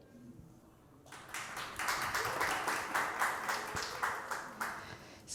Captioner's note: applause